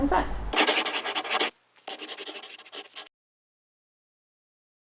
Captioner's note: scribbling